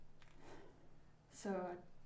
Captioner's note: Ella exhales sharply